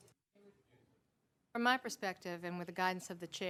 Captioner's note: off microphone